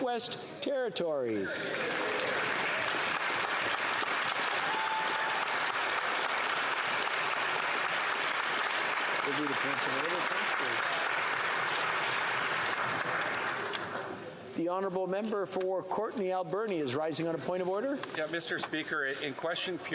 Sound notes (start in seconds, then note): 6.0 applause